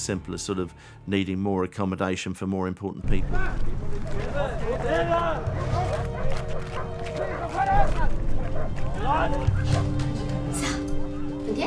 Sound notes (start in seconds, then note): 3.3 dogs barking; 3.9 guards yelling